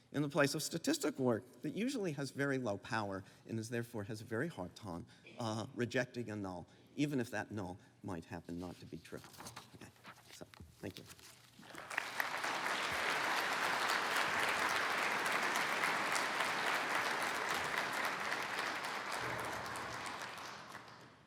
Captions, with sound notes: in the place of statistical work that usually has very low power and therefore has a very hard time rejecting a null, even if that null might happen not to be true. Okay, that's all. Thank you. [APPLAUSE]